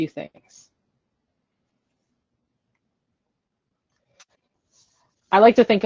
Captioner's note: silence